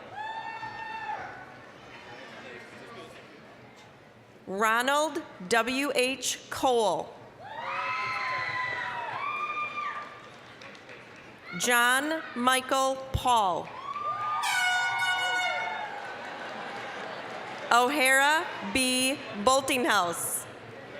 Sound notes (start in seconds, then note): 0.2 applause, cheering; 7.6 applause, cheering; 13.6 applause, cheering; 14.4 air horn blasting; 16.4 audience laughing